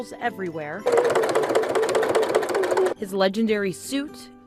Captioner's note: sewing machine whirs